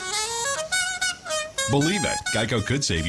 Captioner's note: nose plays a jazzy saxophone tune